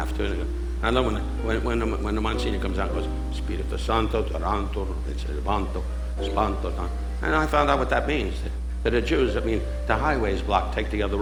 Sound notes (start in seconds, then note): 3.3 speaking foreign language